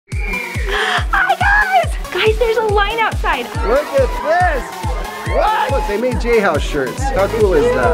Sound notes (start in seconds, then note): 0.1 crowd cheering